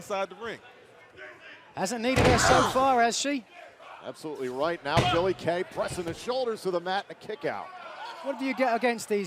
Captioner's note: none